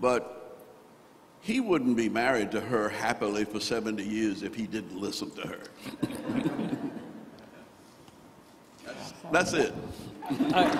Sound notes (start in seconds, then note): 6.0 crowd laughing